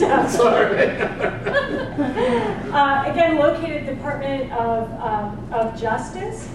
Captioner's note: laugh